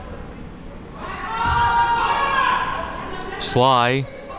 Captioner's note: players shouting